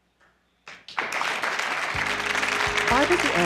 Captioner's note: audience applause